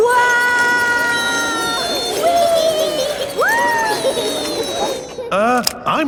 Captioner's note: all yelling